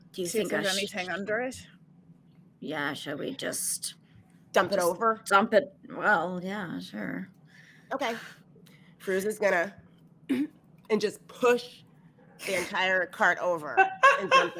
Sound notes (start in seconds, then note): 10.0 grunts; 13.7 laughs